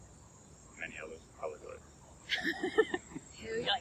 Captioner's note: laughing